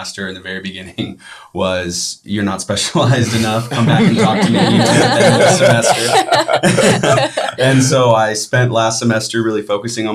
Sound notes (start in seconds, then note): 5.0 all laughing